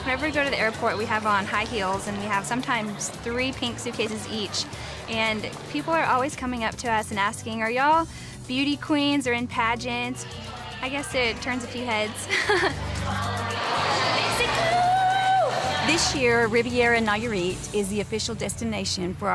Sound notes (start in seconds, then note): 11.3 laughs